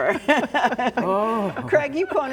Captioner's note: all laughing